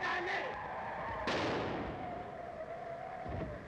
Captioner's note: explodes